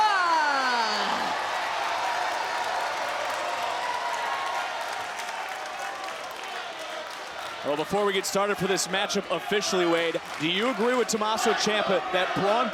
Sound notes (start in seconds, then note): 0.9 audience cheering